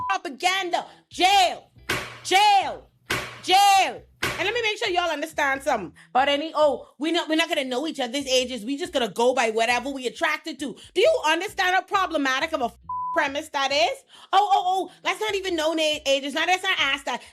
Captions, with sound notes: propaganda, jail, jail, jail. And let me make sure y'all understand something. But any, oh, we're not gonna know each other's ages. We just gotta go by whatever we attracted to. Do you understand how problematic I'm a (beep) premise that is? Oh, oh, oh, that's not even known ages. Now that's not Asda.